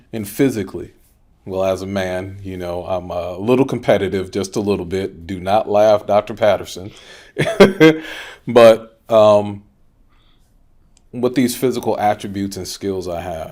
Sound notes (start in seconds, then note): 7.3 chuckles